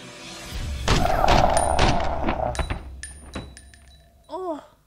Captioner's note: guns shots being fired can be heard